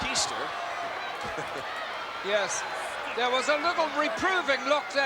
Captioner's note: laugh